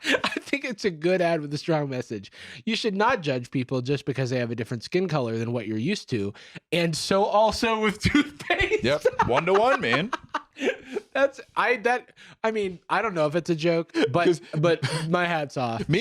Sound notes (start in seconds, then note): 10.9 laughs